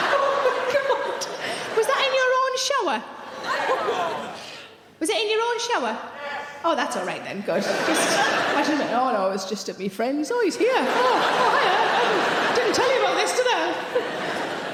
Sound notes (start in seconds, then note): 7.5 audience laughing